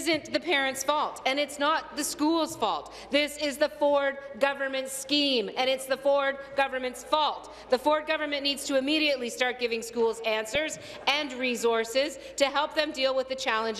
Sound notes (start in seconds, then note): none